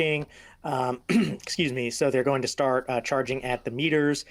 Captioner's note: clearing throat